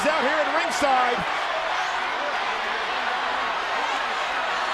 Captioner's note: crowd chanting